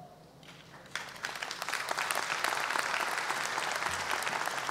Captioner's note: audience applause